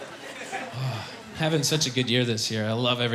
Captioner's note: sighing happily